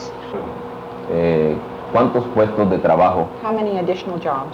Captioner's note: speaking Spanish